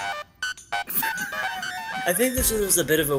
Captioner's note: wheeze